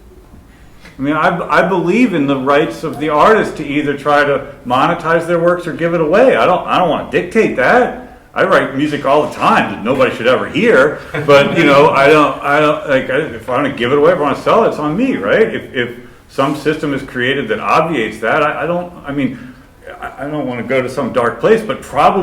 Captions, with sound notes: I mean I believe in the rights of the artist to either try to try to monetize their works or give it away. I don't want to dictate that. I write music all the time that nobody should ever hear. (laughter) But, you know, I don't know if I want to give it away or sell it, it's on me, right. So if some system is created that obviates that I don't want to go to some dark place, but probably